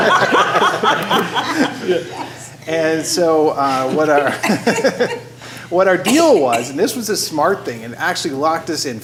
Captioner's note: laughter